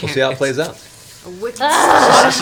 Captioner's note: groans